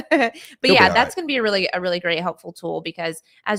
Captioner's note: laughing